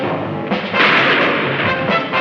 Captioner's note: shot firing